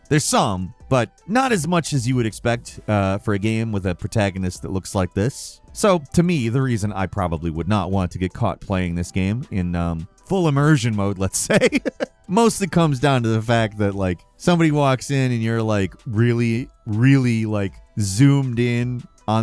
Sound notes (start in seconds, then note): 11.4 chuckles